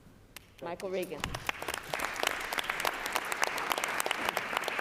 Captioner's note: applause